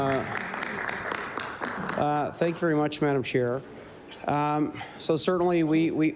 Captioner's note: applause